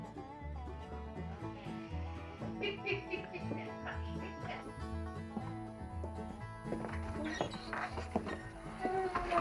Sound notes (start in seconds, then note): 2.4 drunkard laughing